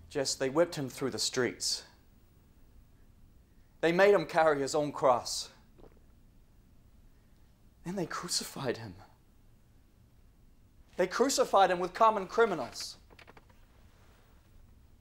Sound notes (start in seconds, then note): none